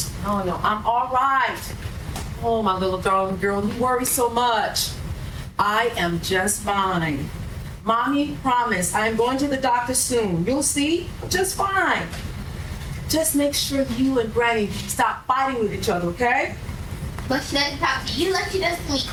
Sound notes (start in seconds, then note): none